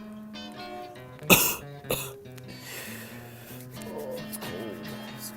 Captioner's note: coughing